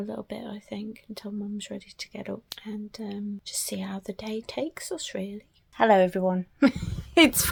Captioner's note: giggles